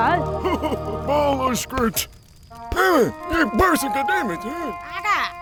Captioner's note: speaks in gibberish; Abraham speaks in gibberish